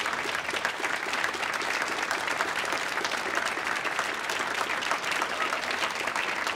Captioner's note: applause continues